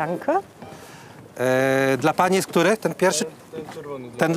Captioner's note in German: spricht polnisch